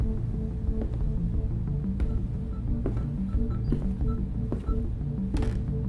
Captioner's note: tense music; machinery beeping